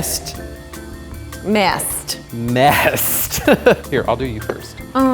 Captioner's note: laughing